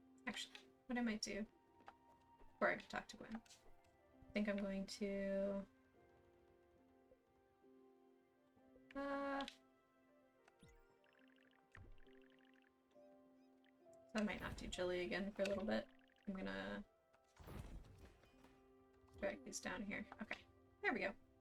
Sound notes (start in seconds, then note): none